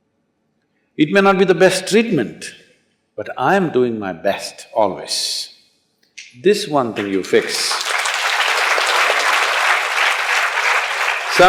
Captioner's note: applause